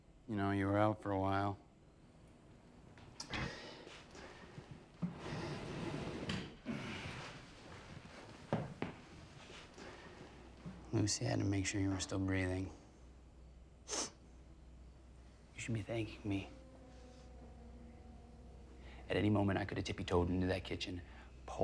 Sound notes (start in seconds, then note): 2.2 crickets chirping; 5.0 chair scraping; 13.8 Tyler sniffs; 17.2 tense music